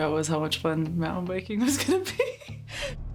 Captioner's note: laughing loudly